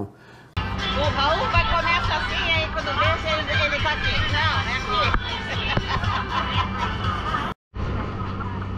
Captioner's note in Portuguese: risos